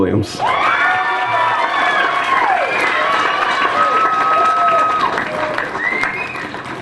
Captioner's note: applause